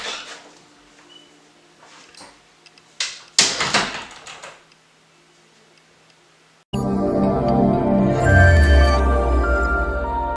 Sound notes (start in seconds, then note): 0.1 door opening; 3.4 door closing; 6.8 upbeat music